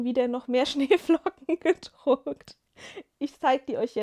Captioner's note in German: gelächter